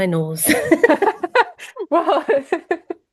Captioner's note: laughter